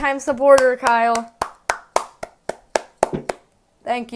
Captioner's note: clapping